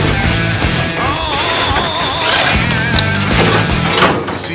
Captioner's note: metal crunching; rubble crumbling